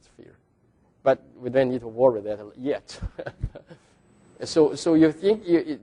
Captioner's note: laughs